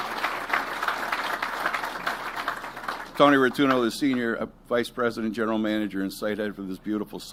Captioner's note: applause